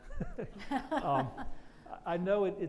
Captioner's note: laughs